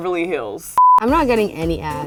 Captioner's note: beep